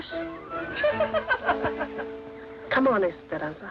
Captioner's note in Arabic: تضحك النساء